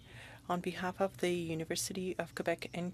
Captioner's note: speaking French